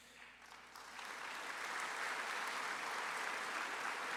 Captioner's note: audience applauds